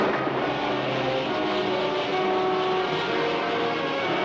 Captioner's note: rocket hissing